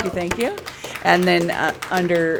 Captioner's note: applause